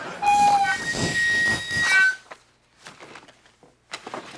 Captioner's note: snoring; microphone feedback